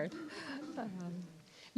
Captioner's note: laughter